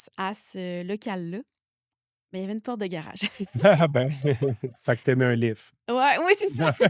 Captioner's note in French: rires